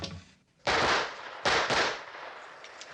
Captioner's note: gunfire